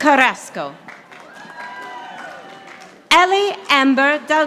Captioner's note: audience applauding